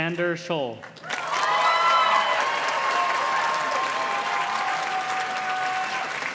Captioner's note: audience cheers and claps